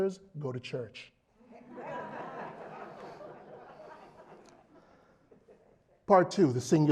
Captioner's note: laugh